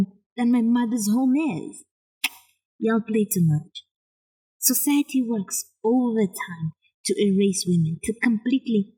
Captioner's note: click